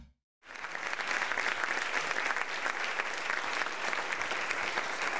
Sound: audience applauding

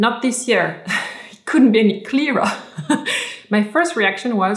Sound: laughs

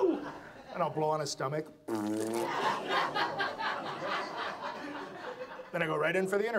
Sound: audience laughs; blows raspberry; audience laughs

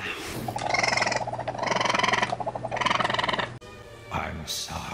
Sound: angry chittering

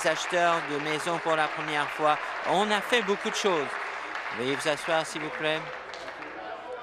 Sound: applause

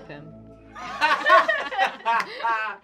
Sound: laughing

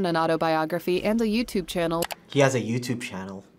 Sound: mouse clicks

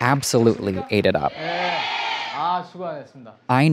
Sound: crowd speaking in Korean; host speaking in Korean

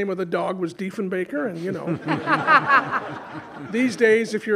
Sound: audience laughing

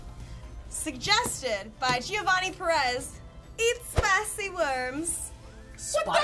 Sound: "Italian" accent

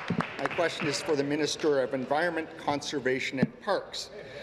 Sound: applause

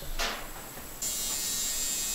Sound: sound of a tattoo gun

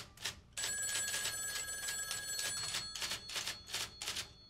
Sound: telephone ringing

